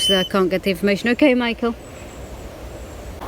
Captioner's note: beep